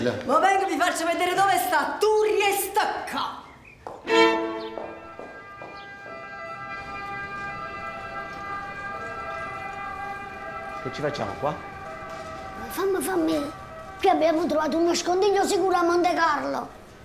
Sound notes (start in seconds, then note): 6.2 ambulance in background